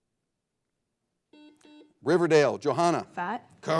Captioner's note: buzzer blares